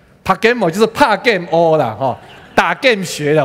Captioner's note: in Taiwanese